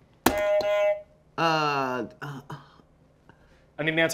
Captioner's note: buzzer beeps